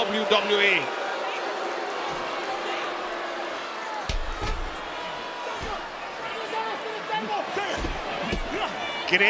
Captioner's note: applause